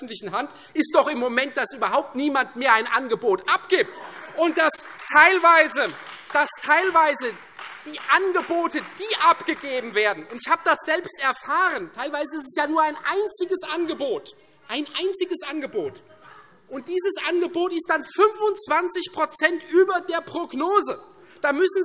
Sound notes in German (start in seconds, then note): 4.0 Beifall Freie Demokraten und vereinzelt AfD